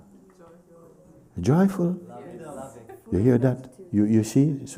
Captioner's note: voices in group